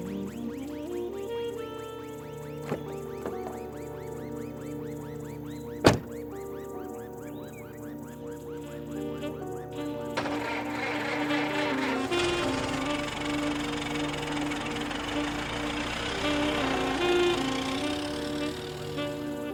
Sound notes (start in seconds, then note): 10.9 car engine revving; 15.0 gentle upbeat music